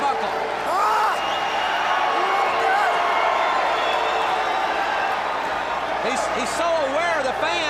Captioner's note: crowd cheering